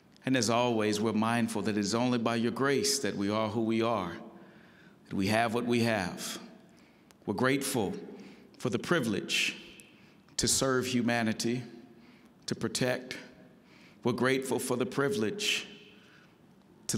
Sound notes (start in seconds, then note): none